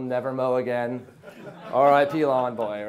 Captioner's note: audience laughs